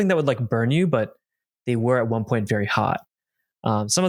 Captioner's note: none